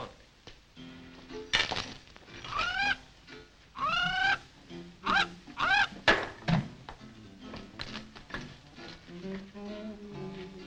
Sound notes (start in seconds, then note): 1.9 bird trills; 7.8 light music